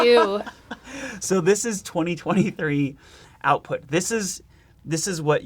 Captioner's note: laughing